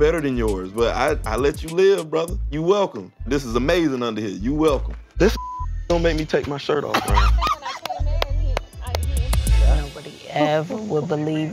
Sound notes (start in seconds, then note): 6.9 laughs